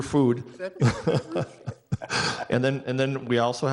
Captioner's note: people chuckling